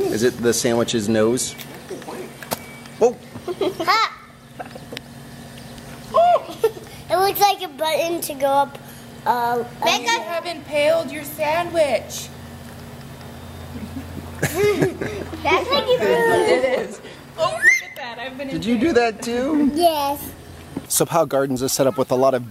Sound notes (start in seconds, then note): 13.7 adults laugh; 17.4 child screams